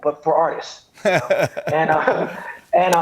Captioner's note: chuckles